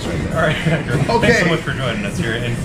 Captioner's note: laughing